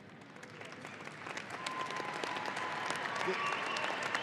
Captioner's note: audience applauding